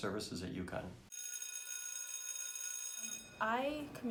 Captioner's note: bell ringing